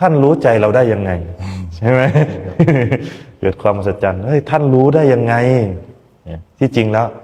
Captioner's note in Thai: เสียงหัวเราะ